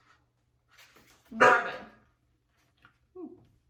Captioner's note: dog barks